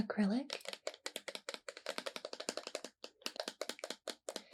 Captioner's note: nails tapping on paint bottle